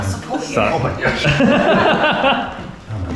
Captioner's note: laughs